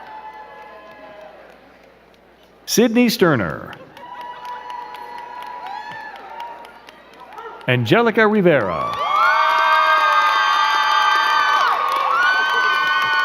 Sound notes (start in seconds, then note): 0.0 crowd cheering and clapping; 4.5 crowd cheering and clapping; 9.1 crowd cheering and clapping